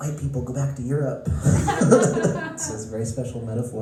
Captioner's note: laughter